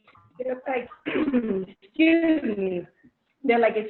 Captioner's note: coughs